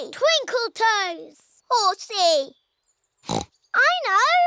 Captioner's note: oinks